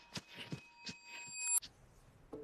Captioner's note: high-pitched ringing